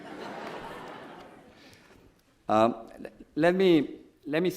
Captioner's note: audience laughs